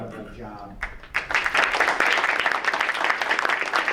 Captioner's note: applauding